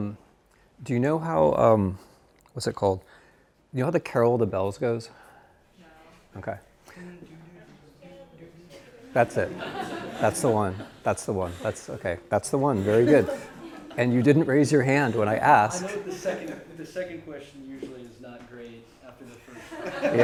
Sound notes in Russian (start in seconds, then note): 7.1 Студент напевает; 8.8 Студенты смеются; 19.2 Тимоти и студенты смеются